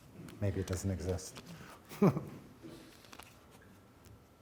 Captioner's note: chuckles